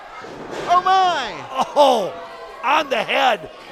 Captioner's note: groans